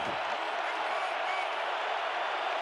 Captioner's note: crowd cheering